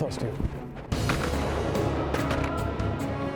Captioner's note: gun shots